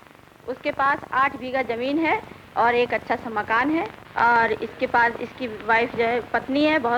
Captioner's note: non-English speech